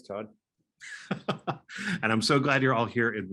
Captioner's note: laughing